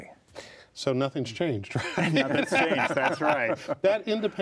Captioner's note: laughs